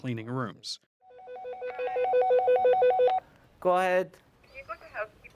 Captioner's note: phone ringing